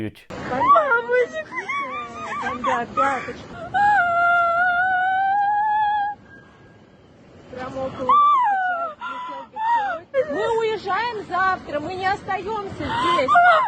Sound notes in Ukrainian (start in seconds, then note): 3.4 плаче